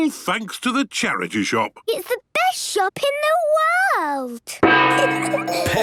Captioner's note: kids giggling